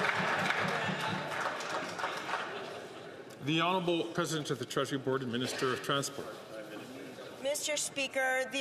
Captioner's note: some Applause